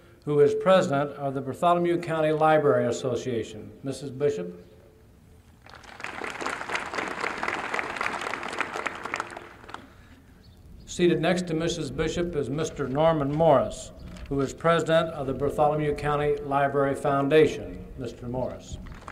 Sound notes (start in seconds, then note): 5.6 applause